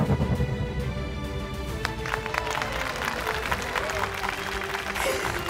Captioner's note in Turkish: Alkış sesi